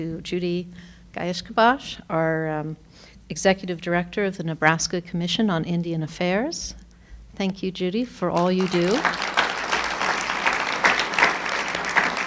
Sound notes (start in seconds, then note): 8.3 applauding